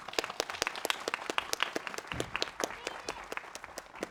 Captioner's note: crowd applauds